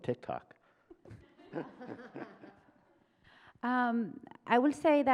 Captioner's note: audience and panel members laugh